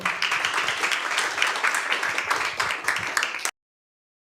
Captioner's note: audience applauds